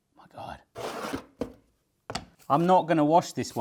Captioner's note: packaging rustling